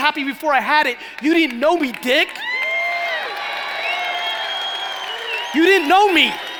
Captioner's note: cheering and applauding